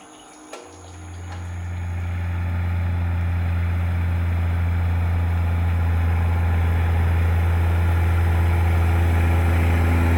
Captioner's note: machine engine sound